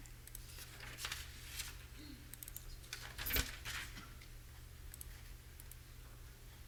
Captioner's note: papers shuffling; mouse clicking